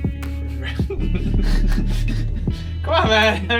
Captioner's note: chuckle